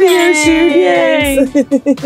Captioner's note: glasses clinking